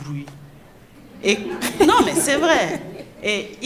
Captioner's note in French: rires